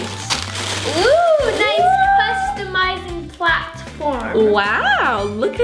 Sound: cheers

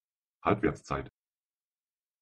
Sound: fast Pronunciation

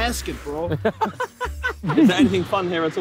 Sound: laughing

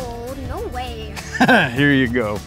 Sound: laughs

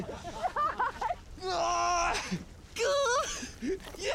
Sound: laughing; grunting

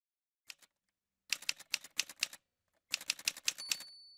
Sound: typewriter sounds

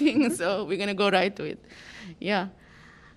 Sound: laughter

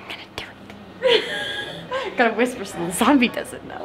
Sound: laughing

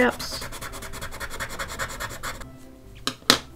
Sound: pencil scratches loudly

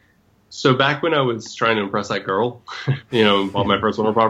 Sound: laughs

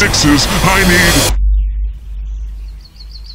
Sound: birds chirp

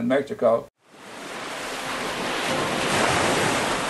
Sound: waves crashing

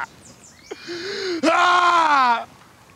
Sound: crying

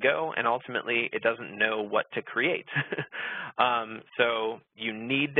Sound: laughs

